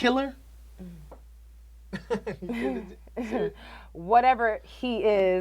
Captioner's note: Terra laughs weakly